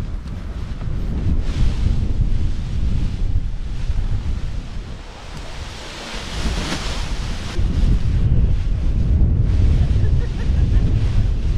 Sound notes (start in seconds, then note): 0.2 winds blow; 5.3 paraglider crinkling